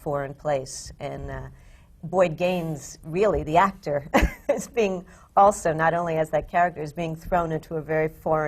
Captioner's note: laughs